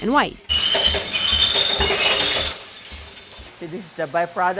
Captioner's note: glass clinking